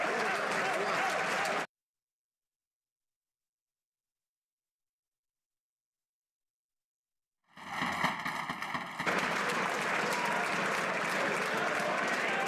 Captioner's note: applause